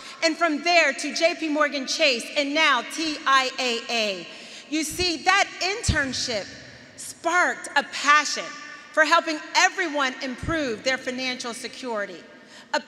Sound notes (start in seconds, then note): none